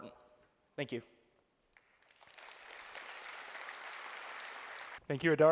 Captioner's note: applause